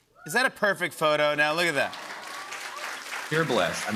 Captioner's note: applause